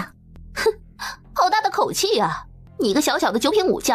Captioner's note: breath